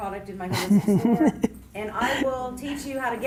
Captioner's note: Gary laughs